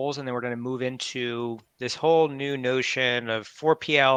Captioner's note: none